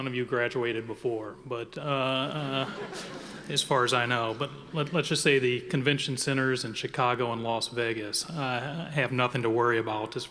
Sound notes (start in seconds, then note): 2.2 audience laughing